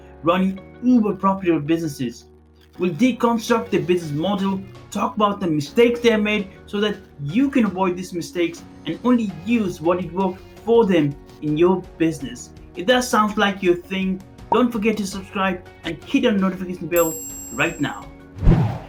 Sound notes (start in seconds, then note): 17.0 notification bell beeping; 18.4 air whooshing